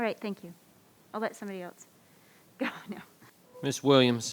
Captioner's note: laughs